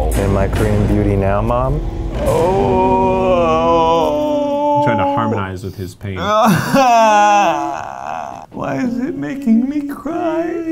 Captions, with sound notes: - Am I Korean beauty now mom? (groaning) - I'm trying to harmonize with his pain. (both groaning) - Why is it making me cry?